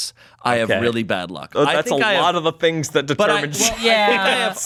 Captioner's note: laughs